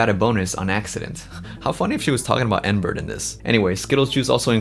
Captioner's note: chuckles